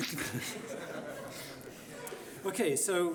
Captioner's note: laughing